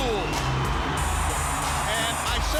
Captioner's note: applause